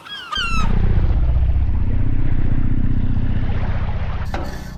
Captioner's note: gulls squawking; air quavering; water splashing